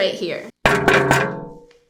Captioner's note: tapping on screen